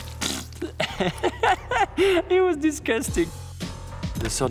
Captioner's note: giggling